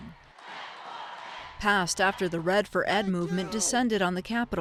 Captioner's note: crowd shouting